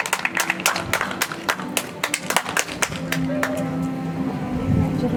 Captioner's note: audience applauds